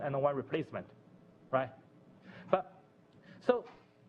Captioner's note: pause